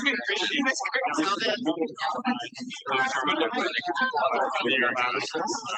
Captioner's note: background chattering continues